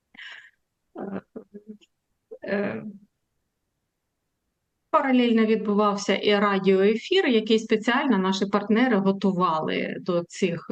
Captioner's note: foreign language